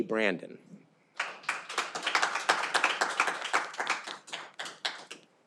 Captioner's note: audience applauding